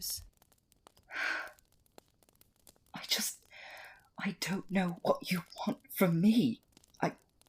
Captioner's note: Remus sighs